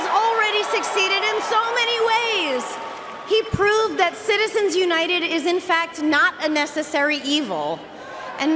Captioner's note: cheering and applause